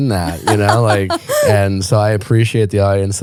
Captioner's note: laughing